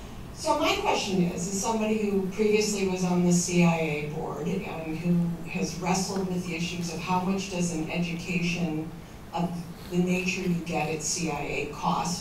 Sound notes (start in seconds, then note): none